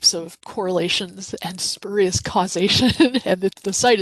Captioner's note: chuckles